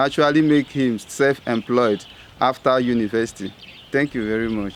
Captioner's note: birds chirping